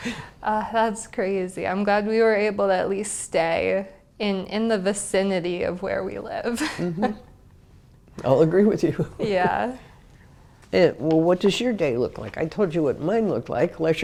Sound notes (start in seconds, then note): 0.1 laugh; 6.6 laugh